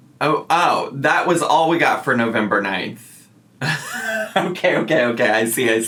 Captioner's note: laughs